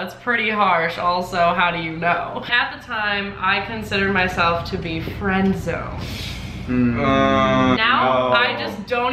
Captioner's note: noises of disapproval